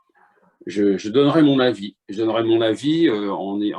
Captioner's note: none